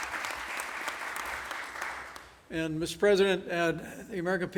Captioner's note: applause